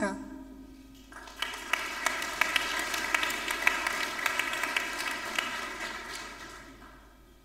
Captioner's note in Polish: oklaski